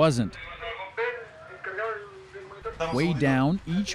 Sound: garbled tunnel transmission

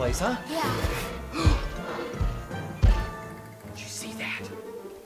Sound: gasp

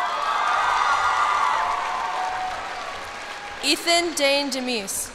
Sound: cheers and applause

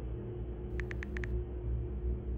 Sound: typing

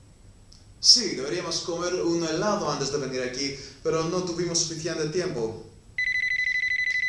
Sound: Spanish

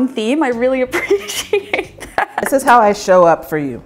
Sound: laughing

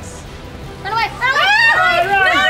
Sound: screaming

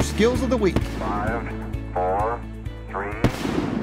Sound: male Voice

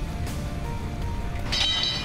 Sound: clang

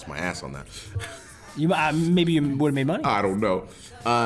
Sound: laugh

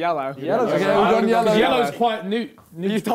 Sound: crowd mumbling

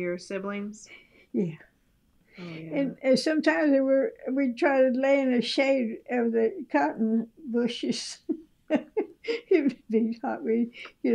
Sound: laughs

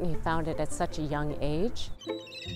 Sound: seagulls screeching

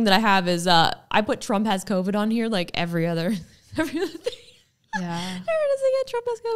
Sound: laughing

